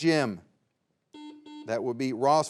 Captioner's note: buzzer beeps